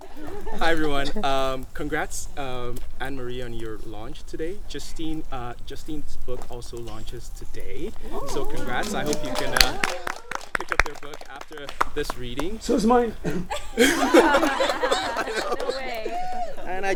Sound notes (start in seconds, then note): 8.0 group applause; 9.8 group laughter